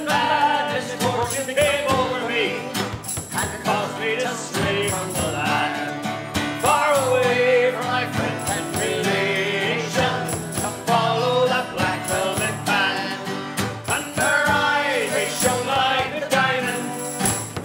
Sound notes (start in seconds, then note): 8.3 bell rings